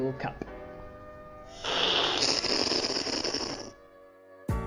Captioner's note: slurping